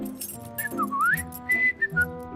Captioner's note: whistling